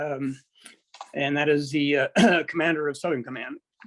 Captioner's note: clears throat